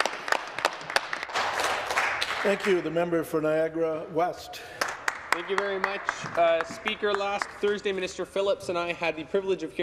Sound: some Applause

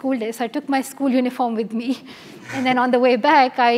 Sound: laugh

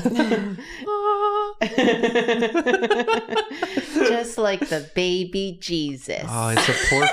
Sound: mimics heavenly sound

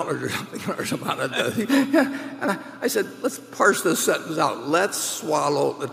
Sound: laughs

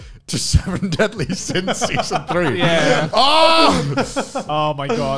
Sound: laughing loudly

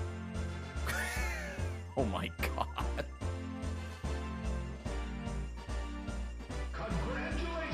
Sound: laughs

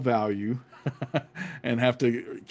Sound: laughs

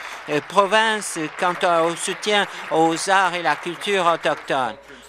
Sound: applause

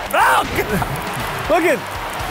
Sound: Luke screams

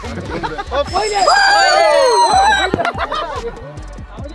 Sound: laughing; shouting with joy

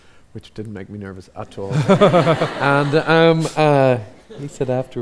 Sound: audience laughs

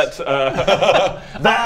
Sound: nervous laughter

